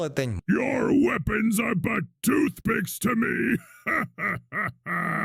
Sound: laughs

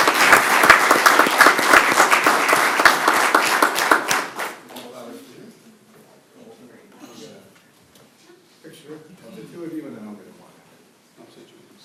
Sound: applause

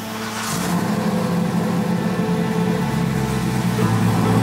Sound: engine roaring

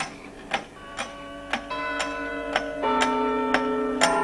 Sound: clock ticking and chiming

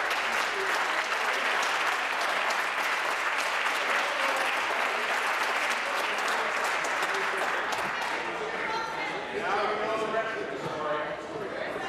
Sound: applause

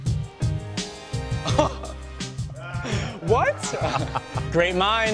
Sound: laughs; chuckles

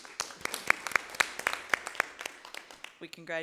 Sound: applause

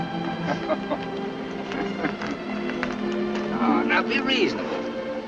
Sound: gentle music; Jim chuckling

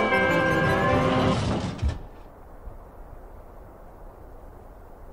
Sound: magic doorway closes and disappears

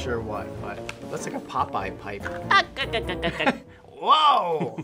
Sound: Popeye laugh

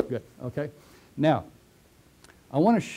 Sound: pause

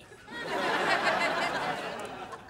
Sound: laughing

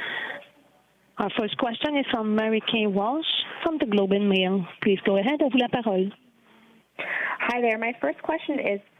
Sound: speaking French

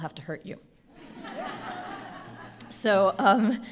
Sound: audience laughing

